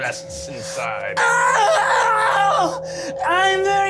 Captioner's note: screams